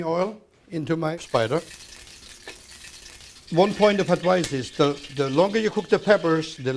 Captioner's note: crackling